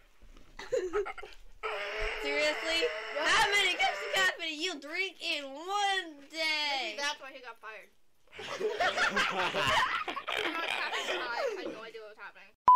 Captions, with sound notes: [Laughter] -Seriously, how many cups of coffee do you drink in one day? -Maybe that's why she got fired. [Laughter] She got on a caffeine high and had no idea what was happening.